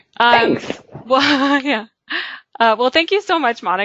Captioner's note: laughs